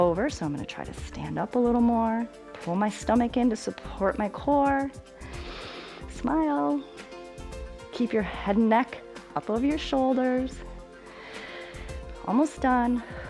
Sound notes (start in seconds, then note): 5.1 inhales; 11.0 inhales